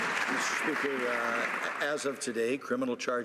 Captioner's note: some Applause